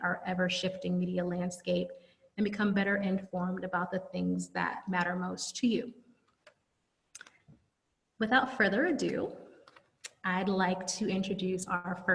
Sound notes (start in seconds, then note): 5.8 silence